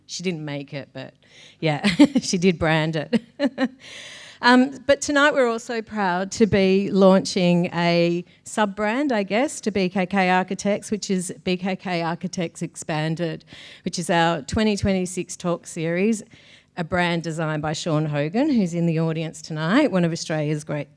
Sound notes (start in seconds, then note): 2.9 laughing